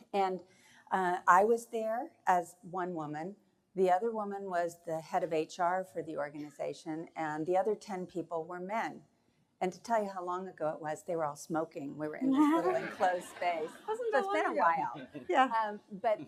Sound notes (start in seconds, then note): 12.4 laughing